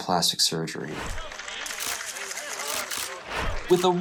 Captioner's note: camera shutter clicks